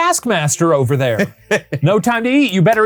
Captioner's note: laughing